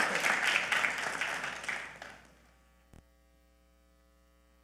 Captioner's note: audience clapping